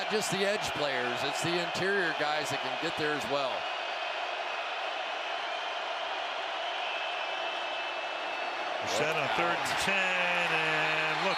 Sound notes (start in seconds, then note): 4.2 crowd cheering